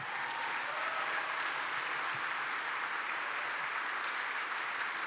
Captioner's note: applause